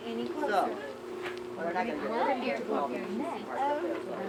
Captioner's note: chattering